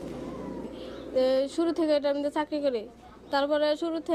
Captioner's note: non-english speech